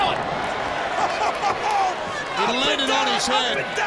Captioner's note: laughs